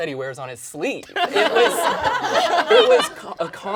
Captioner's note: all laugh